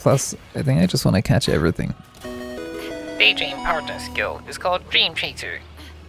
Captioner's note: paldex noise